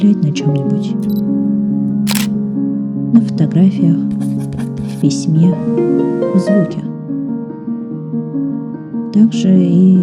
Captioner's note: the click of a lens